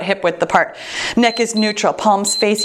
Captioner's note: timer beeps